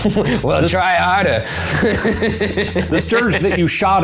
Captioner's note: laughs